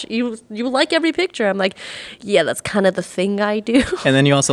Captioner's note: laughing